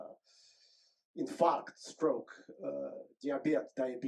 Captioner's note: speaks Russian